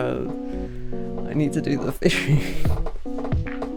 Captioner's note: exhales